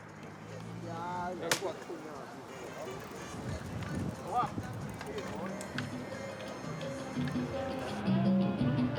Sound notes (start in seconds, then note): 0.5 group of men chatter; 5.1 upbeat music